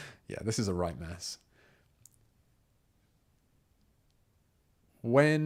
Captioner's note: silence